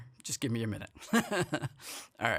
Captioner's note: chuckling